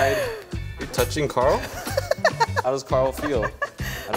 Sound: laughs

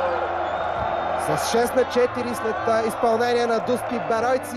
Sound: recording playing

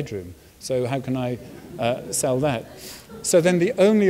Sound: audience laughs softly

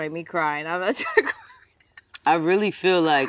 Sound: laughter

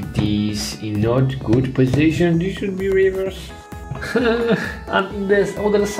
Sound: whimpers

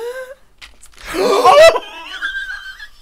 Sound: nail Scratches on Dry Skin

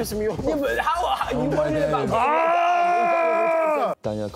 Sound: arguing

